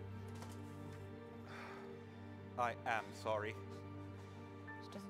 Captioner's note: sighs